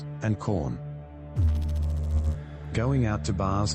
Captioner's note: electrical noise